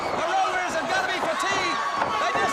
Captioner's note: crowd cheering